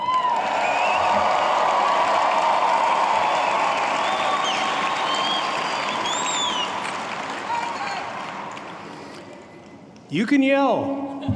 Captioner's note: applause